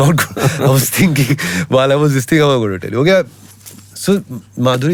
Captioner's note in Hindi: हंसी